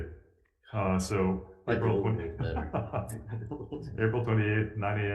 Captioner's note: laughs; speaks faintly